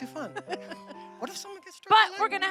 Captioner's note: chuckling